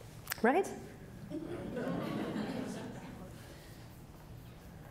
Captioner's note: audience laughing